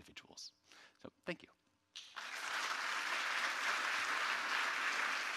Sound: audience applauds

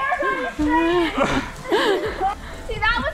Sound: laughing

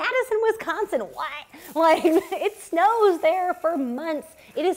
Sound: laughter

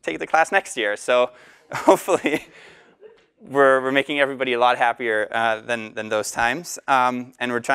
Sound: laugh

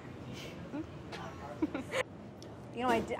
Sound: laugh

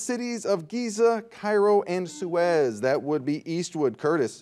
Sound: buzzer dings

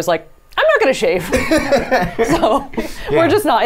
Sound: laughs

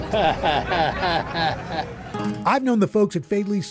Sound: chuckles

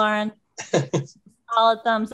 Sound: laughs

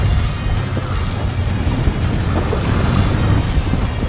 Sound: reel cranking

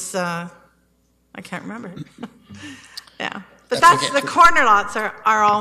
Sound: chuckles

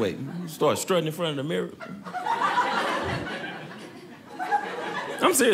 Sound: audience laughing

